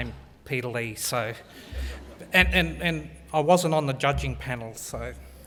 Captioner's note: laugh